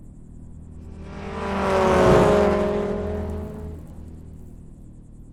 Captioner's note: car engine rumbling